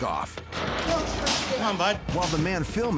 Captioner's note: old woman speaks